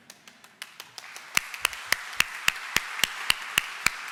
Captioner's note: audience applauds